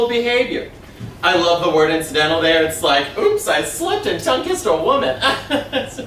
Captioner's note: laughs uncomfortably